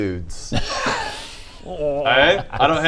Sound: unconvinced laughter

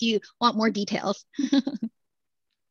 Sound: laughter

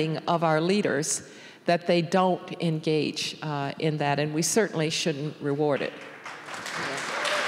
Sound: applause

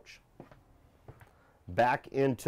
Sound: loud footsteps

